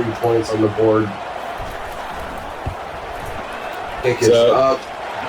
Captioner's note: crowd Noises